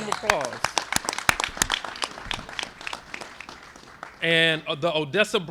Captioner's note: applause